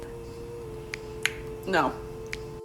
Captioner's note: smacks lips loudly